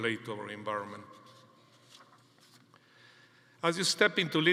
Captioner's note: paper rustling